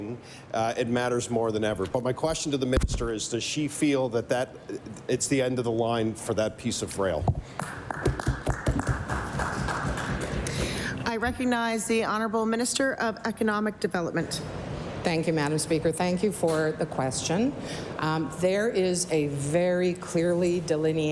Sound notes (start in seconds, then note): 10.9 applause